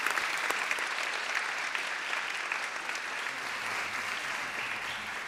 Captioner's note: applause